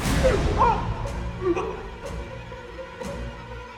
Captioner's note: man gagging; intense tempo music